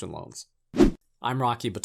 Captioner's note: air whooshing